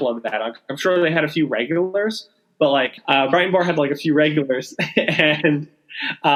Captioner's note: laughing